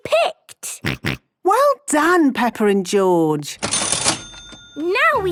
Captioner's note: till rings